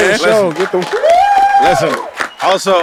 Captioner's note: applause and cheers; screams